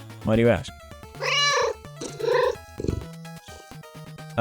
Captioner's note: meow